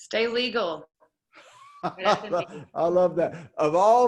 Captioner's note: laughs